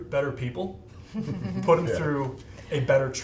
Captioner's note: all laughing